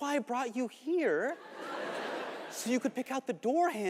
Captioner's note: audience laughing